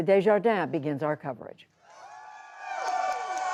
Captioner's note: cheering and applause